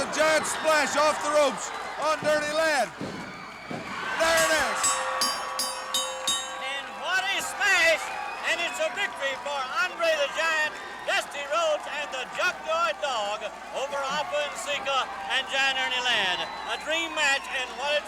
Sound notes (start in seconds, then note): 4.2 bell rings; 4.4 crowd cheers